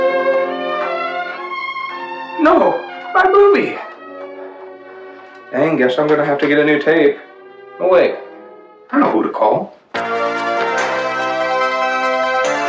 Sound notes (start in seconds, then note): 5.1 sighs